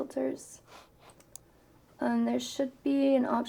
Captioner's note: mouse clicks